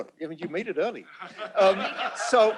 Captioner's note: laughter